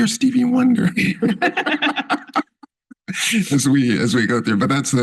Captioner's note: laughter